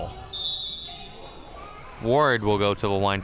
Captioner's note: whistle chirping